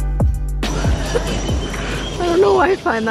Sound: calm music; birds chirping

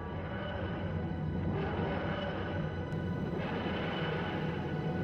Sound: TARDIS engines

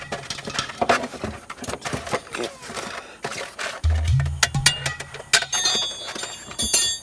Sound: lots of clangin' and bangin'

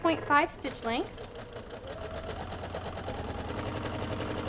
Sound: machine whirs

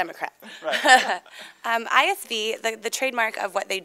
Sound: laughs

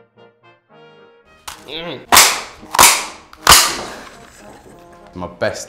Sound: cracker noise

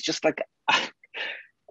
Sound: laughs

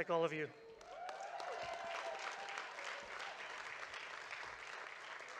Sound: audience claps and cheers

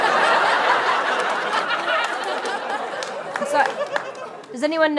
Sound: laughter

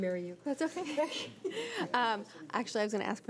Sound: laughing

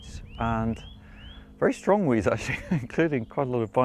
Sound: chuckles

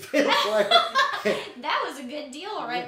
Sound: people laughing

